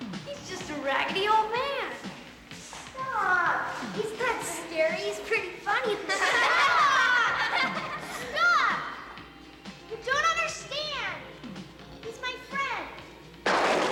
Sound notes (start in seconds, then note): 5.8 children laughing; 13.4 lightning crashes